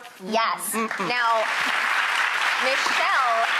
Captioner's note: audience applauding